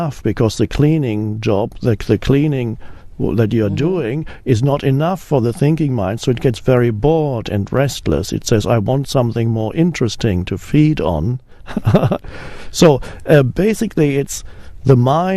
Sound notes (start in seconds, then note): 11.7 laughs